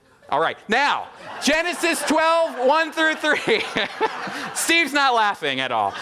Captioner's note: audience laughing; laughing